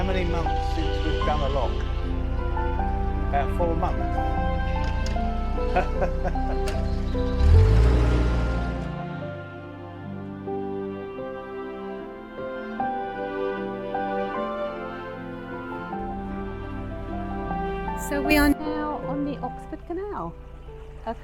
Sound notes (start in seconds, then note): 5.7 laughs